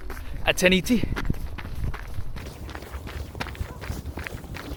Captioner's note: footsteps running